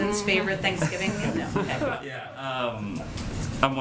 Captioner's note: laughter